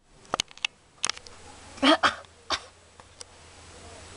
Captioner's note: coughing